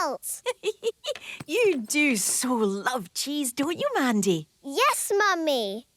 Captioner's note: giggling